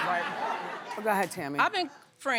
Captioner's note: laughing